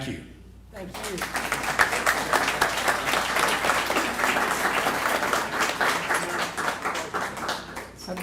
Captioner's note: applause